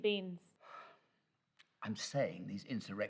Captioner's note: professor sighs